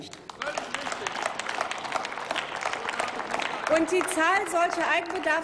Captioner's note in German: Applaus